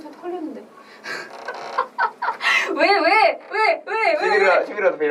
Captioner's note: laughs